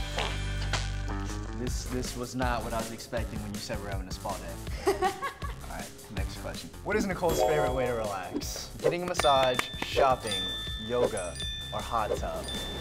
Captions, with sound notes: This- This was not what I was expecting when you said we're having a spa day. [laughing] Alright, next question. What is Nicole's favorite way to relax? Getting a massage, shopping, yoga or hot tub?